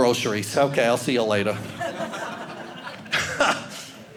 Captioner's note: audience laughing